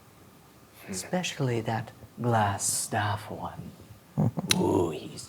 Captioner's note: chuckles